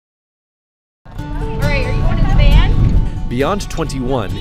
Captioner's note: chatter